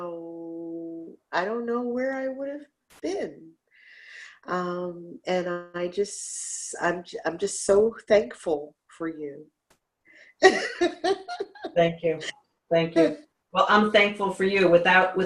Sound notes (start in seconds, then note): 10.4 laughs